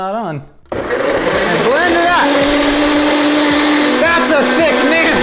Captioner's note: blender roaring loudly